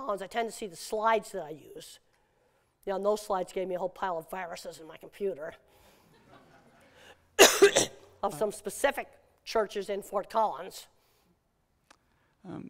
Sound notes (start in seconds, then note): 7.4 coughs